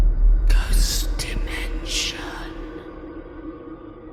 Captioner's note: ghostly Voice